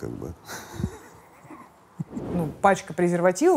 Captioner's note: laughs